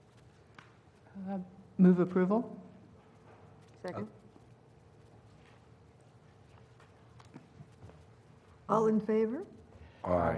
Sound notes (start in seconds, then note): none